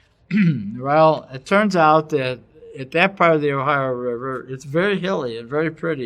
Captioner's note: cough